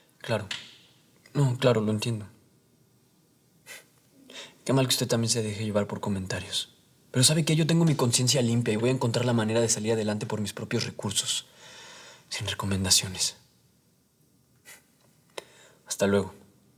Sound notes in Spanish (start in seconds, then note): none